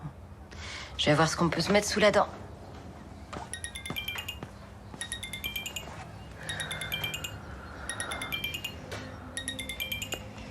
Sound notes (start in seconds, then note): 4.9 phone rings